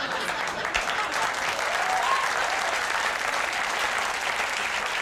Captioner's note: audience laughing; audience applauding